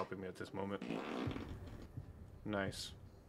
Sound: breaking Wind

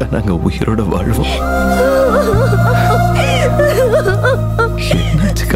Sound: weeping

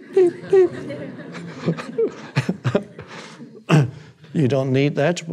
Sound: Eckhart laughing; audience laughing

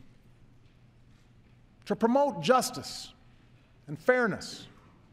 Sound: none

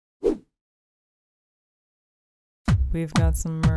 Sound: swoosh

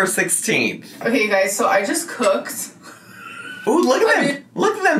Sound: chortles

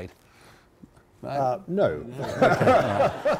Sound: laughs

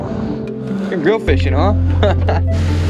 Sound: laughs

